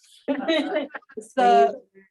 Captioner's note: all laughing